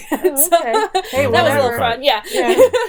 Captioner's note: laughing